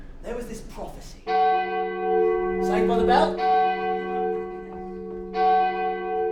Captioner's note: interrupting church bells